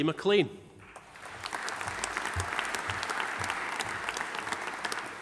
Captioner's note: audience applauding